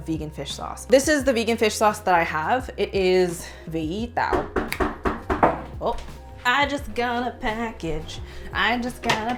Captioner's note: door knock